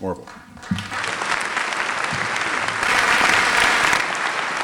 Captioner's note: applause